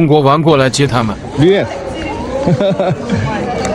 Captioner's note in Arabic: هاهاها